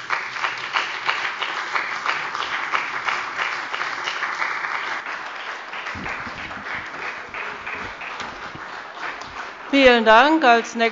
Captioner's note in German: Beifall bei dem BÜNDNIS 90/DIE GRÜNEN und der CDU